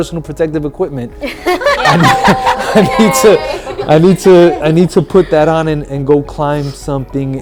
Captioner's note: laughter